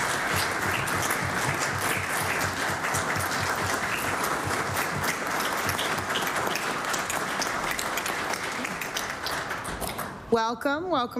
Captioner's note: applause